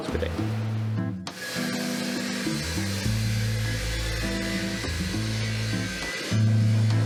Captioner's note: table saw whirring